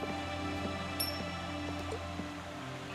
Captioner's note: coin clinking